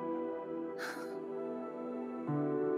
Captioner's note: Chuckles